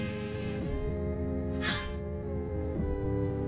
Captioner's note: inhales deeply; exhales sharply